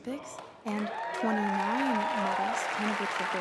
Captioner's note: speaking French